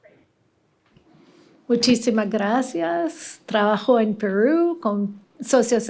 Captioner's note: non-english speech